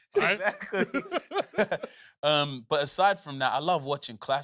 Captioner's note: laughs